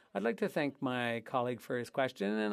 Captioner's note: speaking French